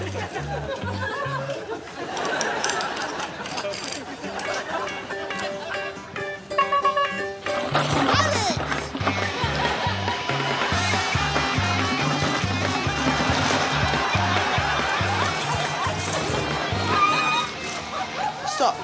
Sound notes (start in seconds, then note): 6.5 air horn honks